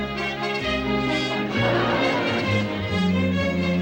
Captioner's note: laughter